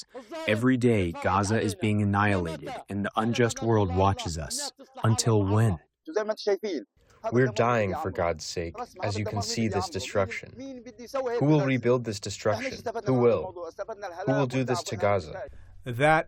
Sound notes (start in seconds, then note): 8.1 through translator